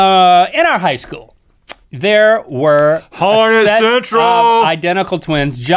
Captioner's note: yelling